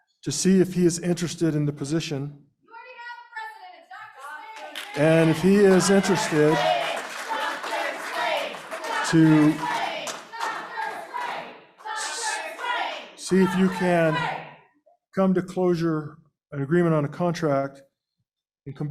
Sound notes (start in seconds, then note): 6.8 chanting